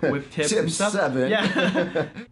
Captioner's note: laughing